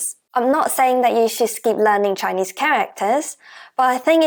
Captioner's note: Mandarin